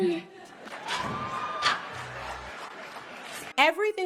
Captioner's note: audience applauds